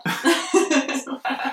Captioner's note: laughs